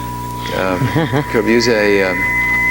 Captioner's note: laughs